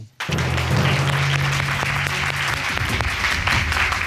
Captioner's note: audience applauding